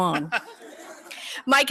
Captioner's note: laughter